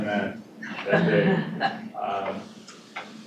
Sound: laughter

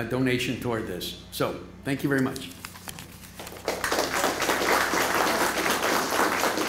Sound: applause

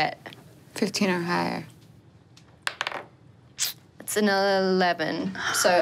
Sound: die taps table

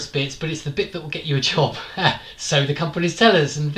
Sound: laughs

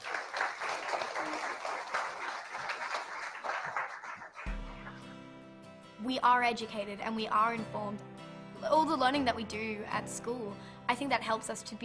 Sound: applause

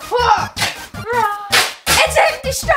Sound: grunts

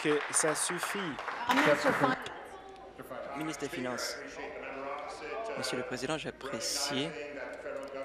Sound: applause

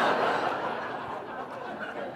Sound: laughter

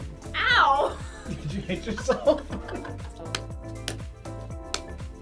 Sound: both laugh; laughs

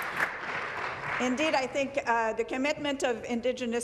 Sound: applause

